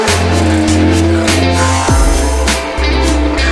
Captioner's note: engine roaring